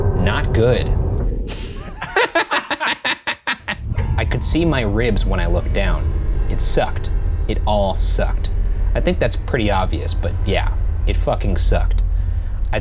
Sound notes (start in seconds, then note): 1.5 laughing